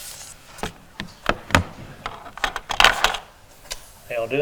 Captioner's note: table thumping